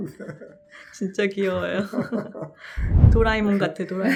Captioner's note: laughs